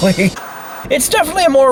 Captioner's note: laughs; TV Static